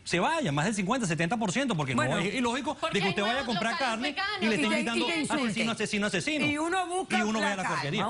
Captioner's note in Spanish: Hablan al unísono